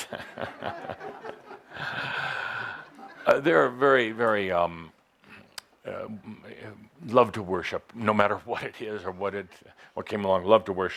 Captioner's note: Adamus chuckles